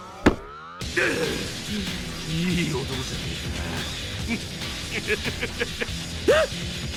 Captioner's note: snicker